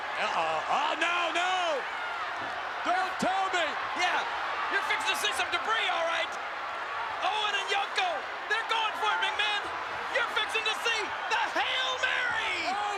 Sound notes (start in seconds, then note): 1.4 spectators cheering; 6.4 spectators cheering